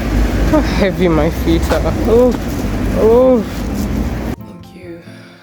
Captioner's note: groans